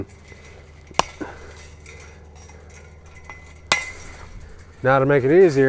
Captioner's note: chain link snapping